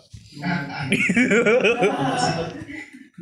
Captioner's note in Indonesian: Giggles